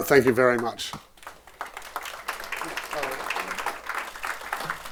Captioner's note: audience applauding